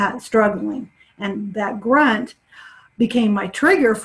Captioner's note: inhales sharply